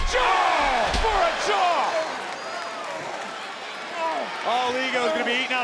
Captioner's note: audience gasping